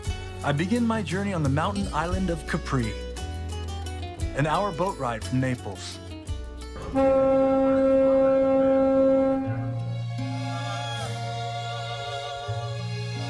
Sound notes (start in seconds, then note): 6.8 boat horn blaring; 10.5 dreamy music